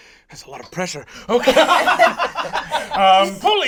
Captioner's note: all laugh